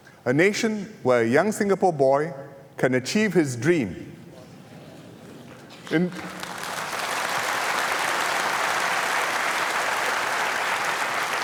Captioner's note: applause